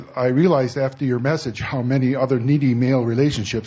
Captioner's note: none